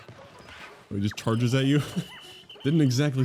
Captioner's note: laughs